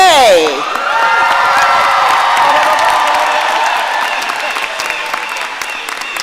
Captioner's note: audience cheering and applauding